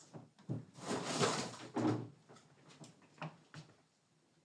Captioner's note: furniture shuffling